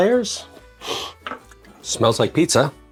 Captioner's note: sniffing